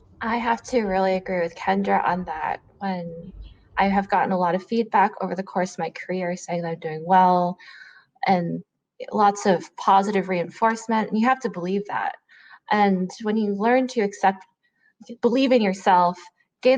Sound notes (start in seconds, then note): none